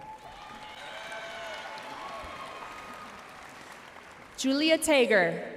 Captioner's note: audience cheering and applauding